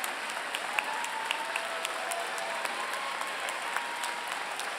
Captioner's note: audience cheering